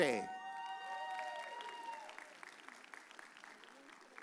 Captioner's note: audience cheers